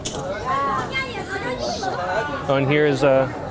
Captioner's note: people chattering